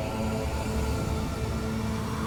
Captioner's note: howling wind